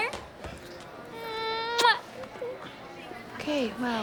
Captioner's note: kissing sounds